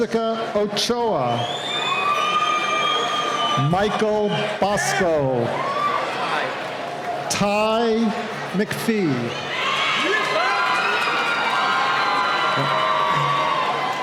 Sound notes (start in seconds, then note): 1.3 cheering; 9.1 cheering